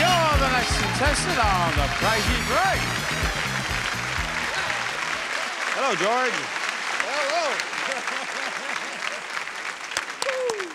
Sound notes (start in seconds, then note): 0.0 audience applauding; 6.2 audience applauding; 7.8 laughing